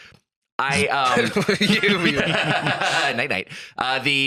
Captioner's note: laughing